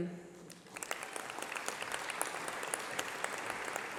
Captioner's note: applause